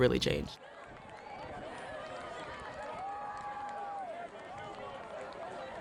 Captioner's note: spectators cheering